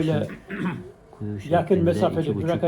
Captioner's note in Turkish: boğazını temizler